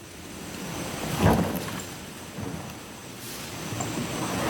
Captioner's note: boat thudding